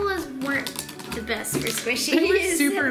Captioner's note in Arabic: يضحك